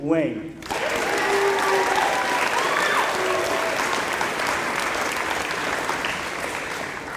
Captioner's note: applause